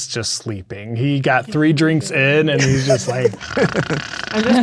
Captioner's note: imitates snoring